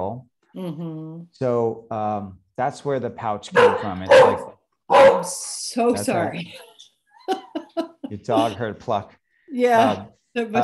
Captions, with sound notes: so um that's where the pouch can come it's like i'm so sorry *laughs*